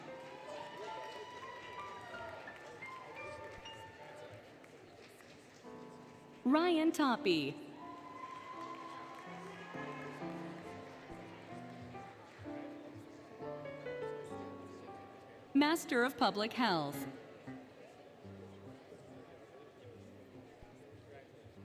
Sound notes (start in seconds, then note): 0.0 applause, Cheering, Music; 7.6 applause, Cheering, Music